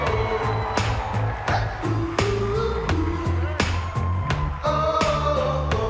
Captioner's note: applause and cheering